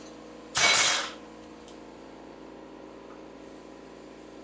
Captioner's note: metal clanking